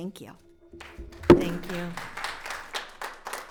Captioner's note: audience applauds